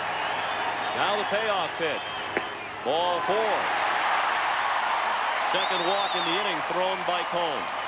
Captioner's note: applause